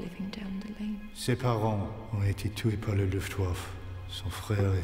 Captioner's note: speaking in French